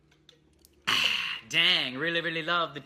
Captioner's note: exhales